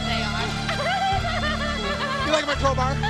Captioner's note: Daffney laughing